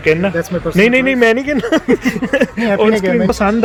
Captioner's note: laugh